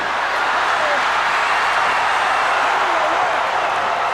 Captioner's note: crowd cheers